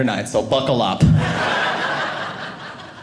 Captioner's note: audience laughing